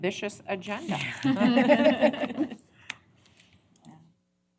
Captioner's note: laughter